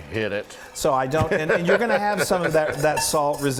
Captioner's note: laughing